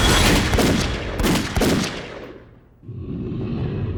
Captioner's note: more gunshots